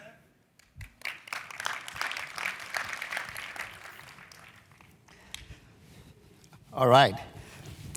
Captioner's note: applause